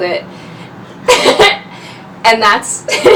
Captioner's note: laughs